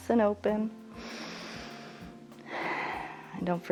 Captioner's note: inhales and exhales